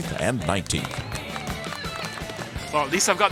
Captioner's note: golf Applause